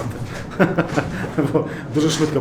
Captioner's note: laughs